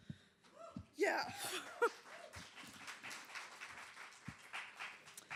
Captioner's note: applause